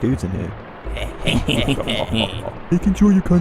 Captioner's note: nasally laugh from said shady dudes